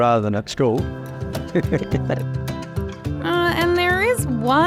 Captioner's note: chuckles